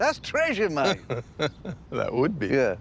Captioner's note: laughing